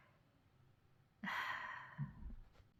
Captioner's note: sigh